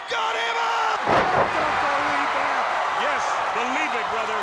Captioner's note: crowd roars